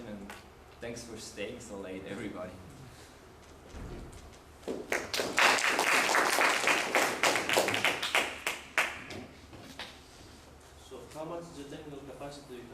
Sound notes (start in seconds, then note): 4.8 applause